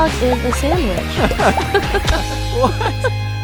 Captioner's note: both laughing; laughing